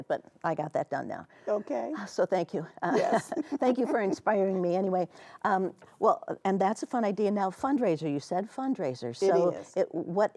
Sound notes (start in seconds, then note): 2.9 chuckling